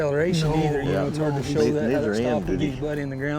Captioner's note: all chattering